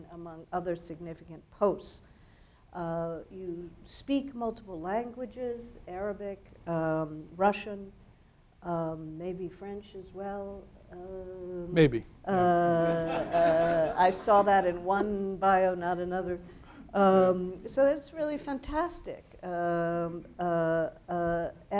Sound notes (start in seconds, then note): 12.4 laughing